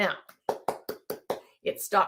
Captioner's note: clapping